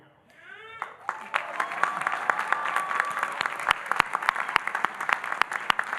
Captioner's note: audience cheering and applauding